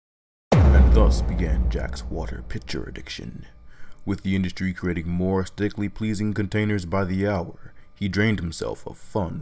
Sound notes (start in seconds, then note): 0.5 dramatic boom